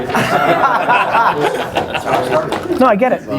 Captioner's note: all laugh